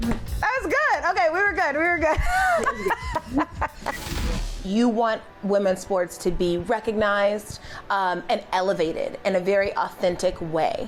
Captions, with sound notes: That was good. OK, we were good. We were good. [Laughing] You want women's sports to be recognized and elevated in a very authentic way.